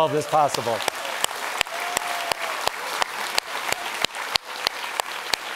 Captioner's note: audience applauds